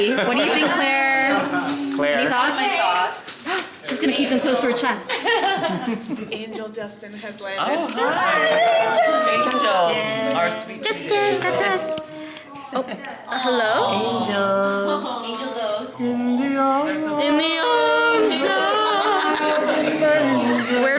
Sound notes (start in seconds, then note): 5.0 laughs